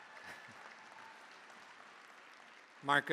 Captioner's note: cheering, applause